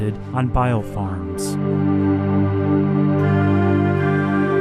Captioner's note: PSA excerpt in English